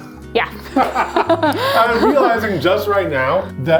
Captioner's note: laugh